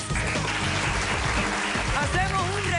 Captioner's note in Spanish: aplausos